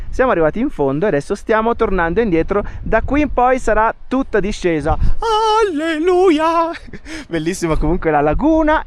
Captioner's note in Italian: risate